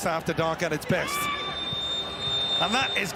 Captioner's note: whistle blows